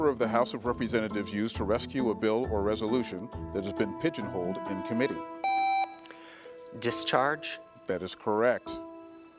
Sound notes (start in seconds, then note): 5.4 contestant beeping